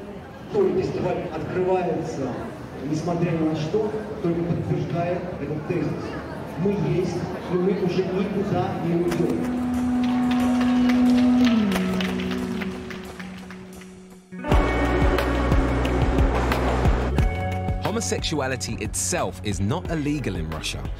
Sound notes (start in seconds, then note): 0.2 speaking in foreign language; 9.4 people applauding; 10.0 calm music